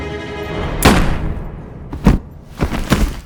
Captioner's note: gun shot fires; thuds